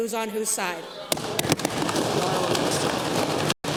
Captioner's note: applause